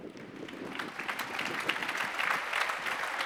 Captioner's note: applause